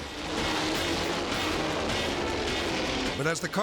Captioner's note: car engines roaring